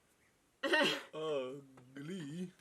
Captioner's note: laughs